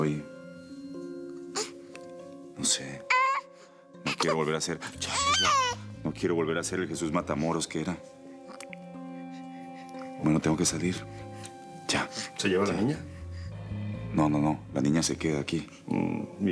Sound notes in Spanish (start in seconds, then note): 4.0 Llanto del bebé